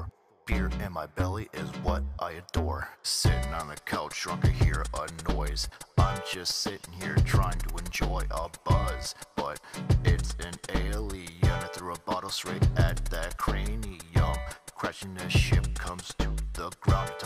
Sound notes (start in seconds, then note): none